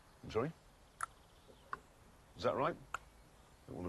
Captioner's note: clicks tongue